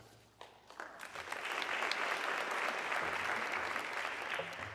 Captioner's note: audience clapping